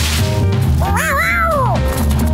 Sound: meowing

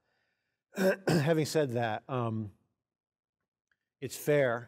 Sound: coughing

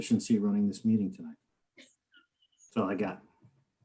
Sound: laughing softly

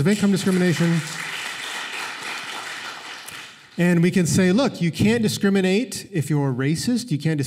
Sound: applause

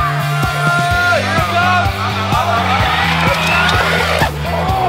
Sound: group cheering; electric motor whirring; cheering; upbeat, rhythmic music

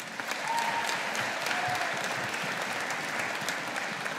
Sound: audience applauding

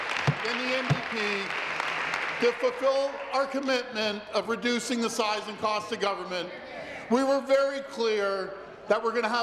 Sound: applause

